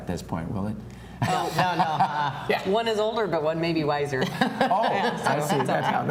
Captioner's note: laughter